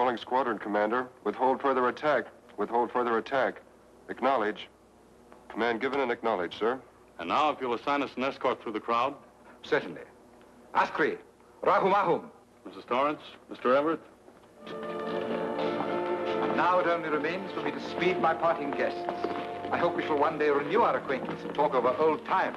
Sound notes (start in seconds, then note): 11.6 speaks foreign language